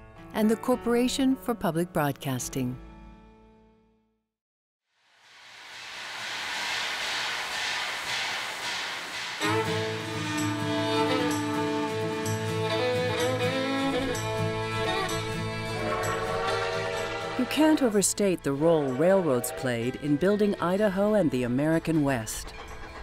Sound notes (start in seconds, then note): 5.2 steam sound; 9.2 train rumbles